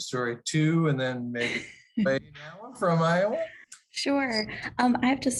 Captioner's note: laughter